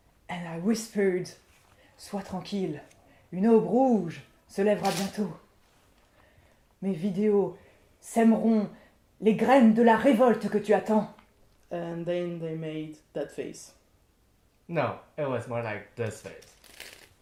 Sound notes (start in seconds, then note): 1.9 in french